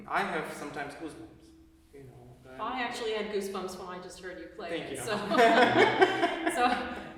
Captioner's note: laughter